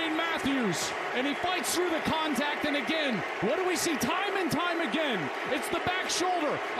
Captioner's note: cheers and applause